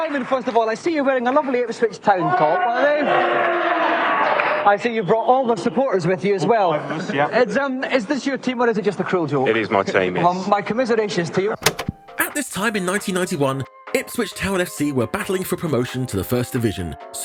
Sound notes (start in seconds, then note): 2.3 audience jeering